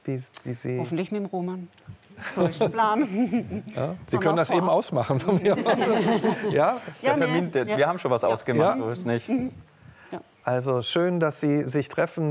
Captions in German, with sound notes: Hoffentlich mit dem Roman, so ist der Plan. (Leichtes Lachen) Sie können das eben ausmachen. Ja, wir haben schon was ausgemacht. - Ja. Ja? Also schön, dass Sie sich treffen,